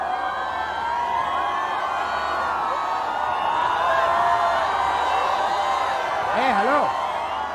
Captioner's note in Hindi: चियरिंग